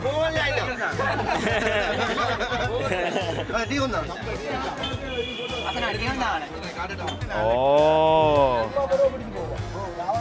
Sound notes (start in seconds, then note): 0.9 laughing; 1.6 distant chattering; 3.4 speaking foreign language